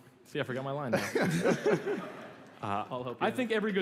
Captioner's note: laughter